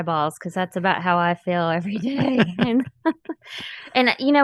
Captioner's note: chuckles